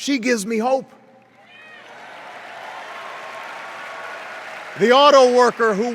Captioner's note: cheers and applause